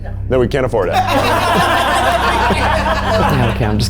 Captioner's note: all laughing